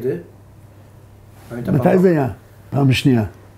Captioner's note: in Hewbrew